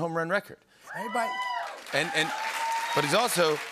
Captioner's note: cheers and applause